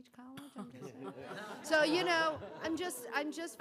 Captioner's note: laughter